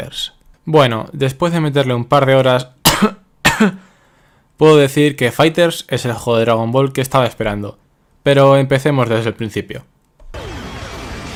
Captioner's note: cough